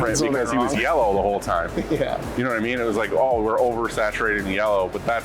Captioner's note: giggles